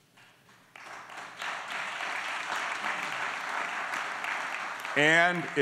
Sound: applause

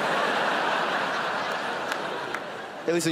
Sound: crowd laughs

